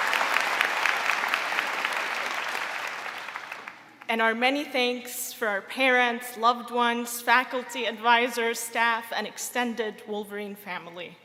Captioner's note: applause